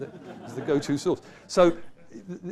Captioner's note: laughter